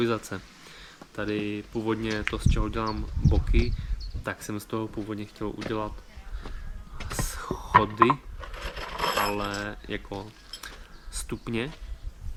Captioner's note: steps